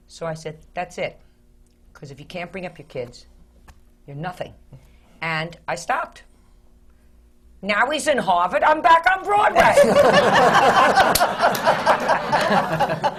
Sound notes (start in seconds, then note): 5.9 does the jewish mama voice; 9.6 laughter